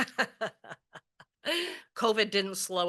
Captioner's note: laughs